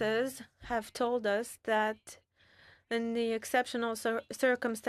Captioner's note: speaking French